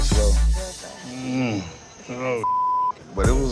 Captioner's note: beep